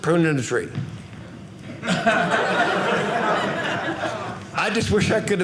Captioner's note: audience laughing